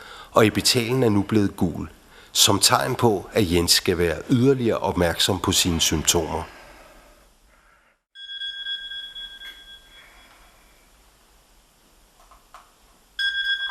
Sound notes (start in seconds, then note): 8.1 4 hours later... Alarm bell sounds